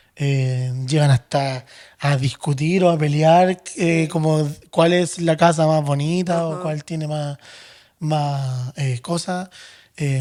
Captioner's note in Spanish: suspiro